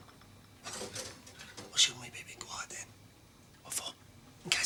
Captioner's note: whispering